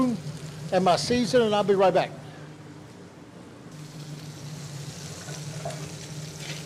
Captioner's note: skillet sizzling continues